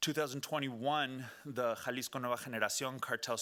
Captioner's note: speaking Spanish